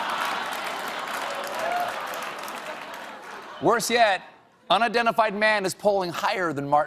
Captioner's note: laughter